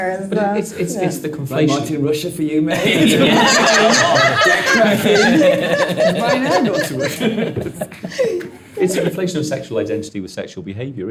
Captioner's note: all laughing